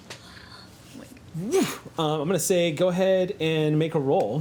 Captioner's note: whooshes